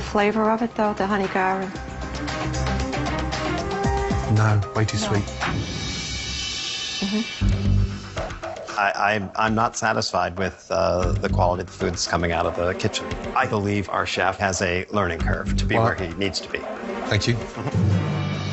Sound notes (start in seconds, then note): 8.2 stammering